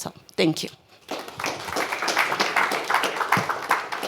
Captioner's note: applause